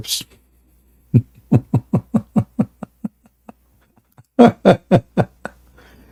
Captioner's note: Ketawa